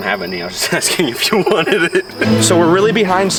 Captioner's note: laughs